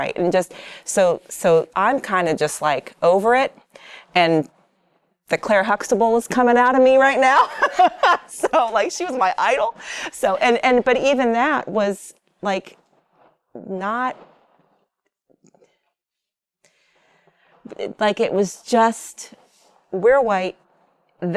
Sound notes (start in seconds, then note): 7.3 laughs